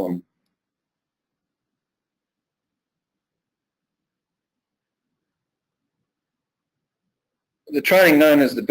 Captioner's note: pause